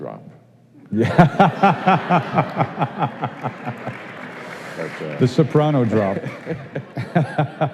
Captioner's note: laughing